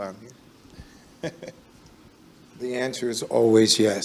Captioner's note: chuckles